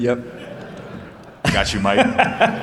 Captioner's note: laughter